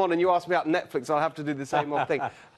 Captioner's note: laughter